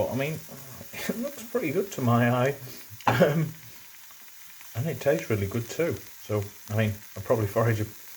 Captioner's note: laughs